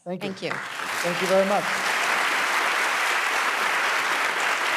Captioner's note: audience applauding